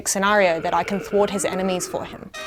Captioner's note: zombie groaning